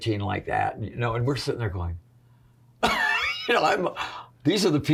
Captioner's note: chuckles